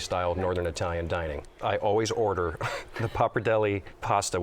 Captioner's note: chuckles